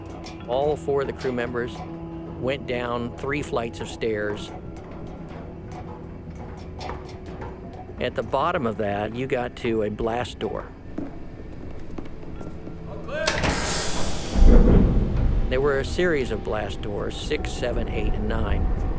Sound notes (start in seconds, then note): 13.1 hissing and unlatching